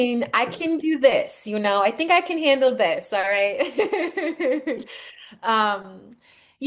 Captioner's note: laughs